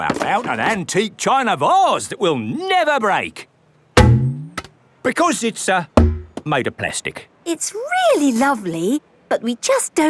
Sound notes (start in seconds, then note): 4.2 thunks